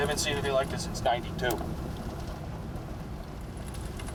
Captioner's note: none